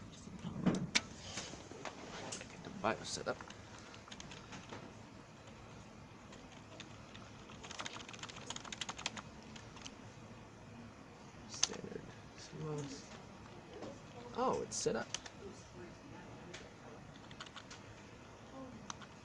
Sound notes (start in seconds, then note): 6.3 typing on Keyboard like movie hacker